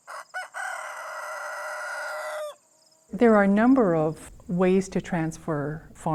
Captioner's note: rooster crows